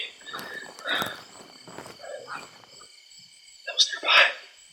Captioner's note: branches thumping to ground